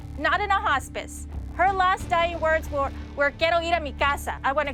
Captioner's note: spanish